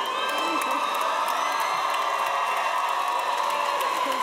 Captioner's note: cheers and applause